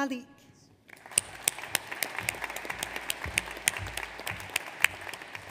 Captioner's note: audience applauds